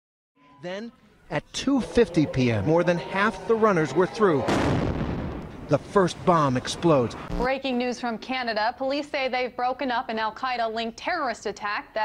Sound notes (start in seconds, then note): 4.4 explosion